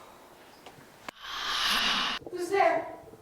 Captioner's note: loud raspy breath